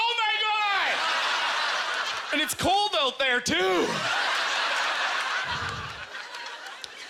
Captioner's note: audience laughter